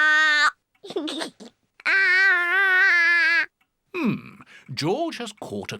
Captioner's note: giggles